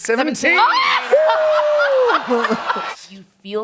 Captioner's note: laughing